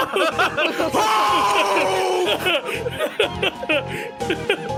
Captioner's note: laughs